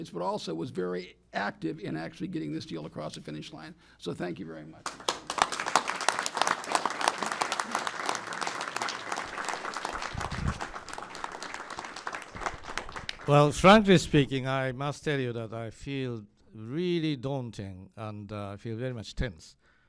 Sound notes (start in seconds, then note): 9.7 applause